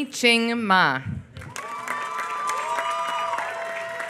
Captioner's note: applause